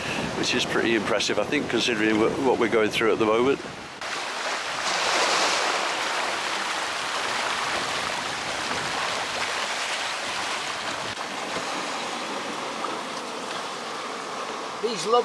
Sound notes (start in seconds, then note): 3.9 sea Noise